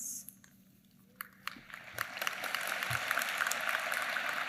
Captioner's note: applause